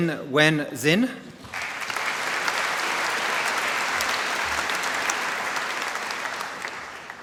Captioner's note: applause